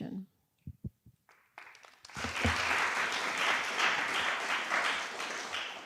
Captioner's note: applause